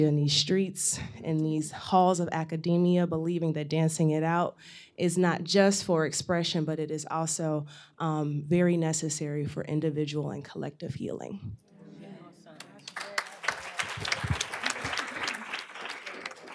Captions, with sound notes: in these streets, in these halls of academia, believing that dancing it out is not just for expression, but it is also very necessary for individual and collective healing. [APPLAUSE]